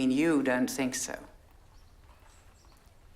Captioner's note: none